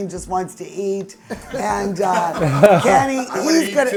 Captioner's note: group laughs